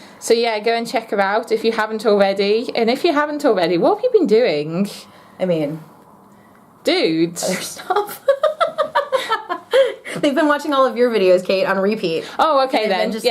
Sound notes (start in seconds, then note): 7.8 laughter